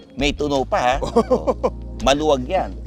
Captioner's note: laughs